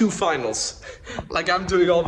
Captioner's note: laughing